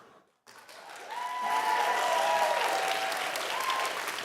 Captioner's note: audience cheering